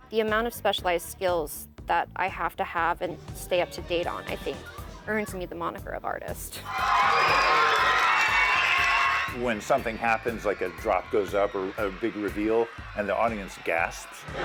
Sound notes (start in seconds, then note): 6.6 people cheering and clapping